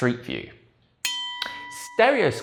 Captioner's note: bell ringing